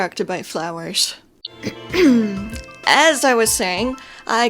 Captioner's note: clears throat* as i was saying